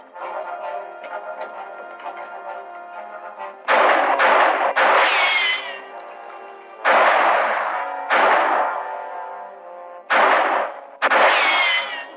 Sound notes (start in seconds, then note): 0.1 tense music; 3.6 gunshots